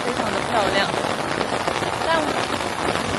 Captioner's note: rain